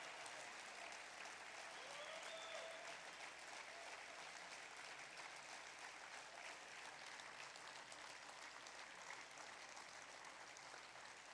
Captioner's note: applause